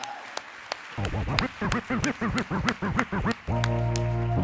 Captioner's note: audience applauding